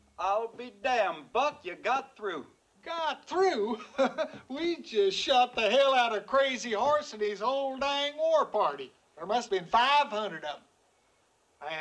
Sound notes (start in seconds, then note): 3.6 chuckles